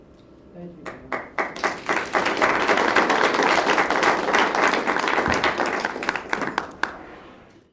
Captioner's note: applause